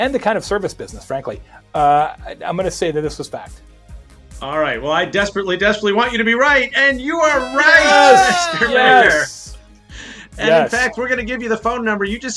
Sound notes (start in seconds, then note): 8.2 shouting